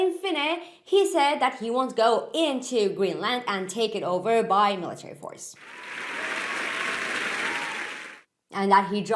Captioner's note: cheery applause